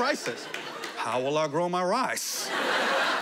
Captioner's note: imitating Larry the Cable Guy